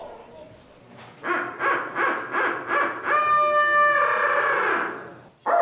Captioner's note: turkey call whooping